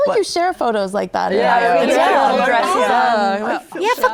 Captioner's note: guests gushing